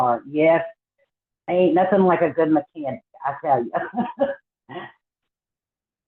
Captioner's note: laughs